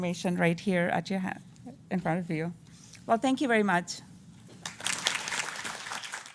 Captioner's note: applause